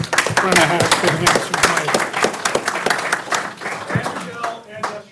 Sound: audience applauding; speaking faintly

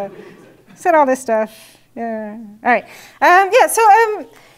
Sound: laugh

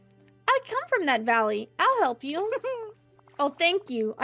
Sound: Ariel Giggles

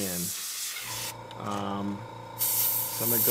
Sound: motor whirring; hissing

